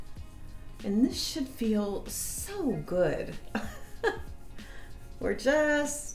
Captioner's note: laughs